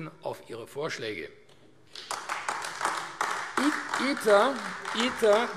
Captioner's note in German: Beifall AfD